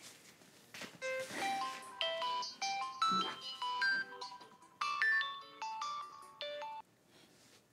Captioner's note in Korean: 휴대전화벨 소리